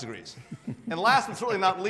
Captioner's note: laughing